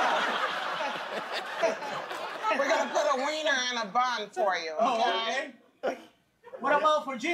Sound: laughter

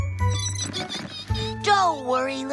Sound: mice Squeak

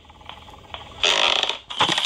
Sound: ground creaks

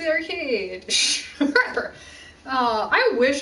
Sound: laughs

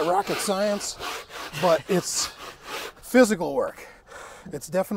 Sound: scraper scrapes roof deck

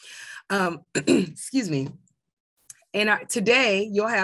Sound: cough

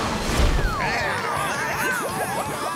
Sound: baaing

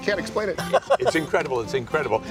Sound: laughs

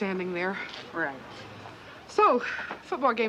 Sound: sighs

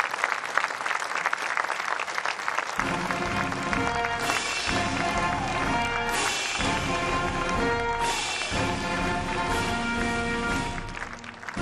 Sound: applause

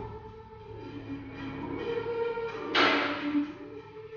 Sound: door clicks

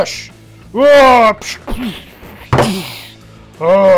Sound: grunting

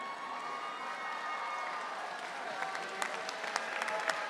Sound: audience cheering

